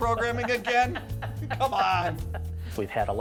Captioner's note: laughs